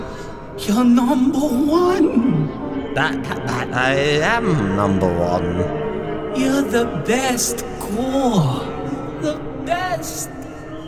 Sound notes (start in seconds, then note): none